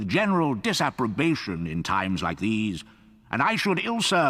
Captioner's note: voiceover